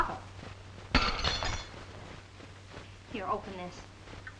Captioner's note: glass shattering